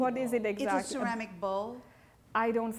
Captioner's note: voiceover